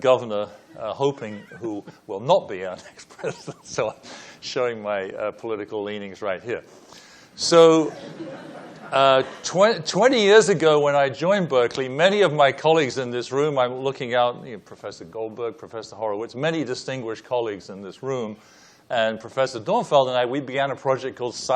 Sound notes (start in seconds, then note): 7.8 laughing